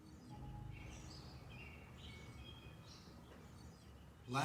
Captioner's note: birds chirping